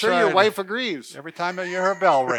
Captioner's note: laughs